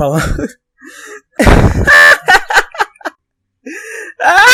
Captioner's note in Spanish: riendose feo; inhala